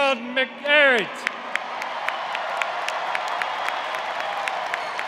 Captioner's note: applause